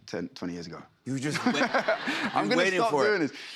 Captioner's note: laughter